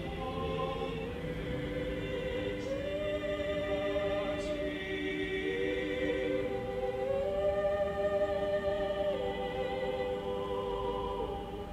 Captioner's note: chants